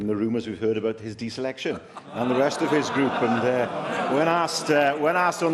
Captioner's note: laughter